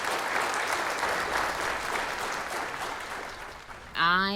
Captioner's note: applause